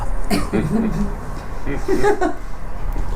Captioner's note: laughter